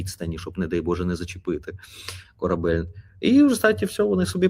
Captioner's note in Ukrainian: сопіння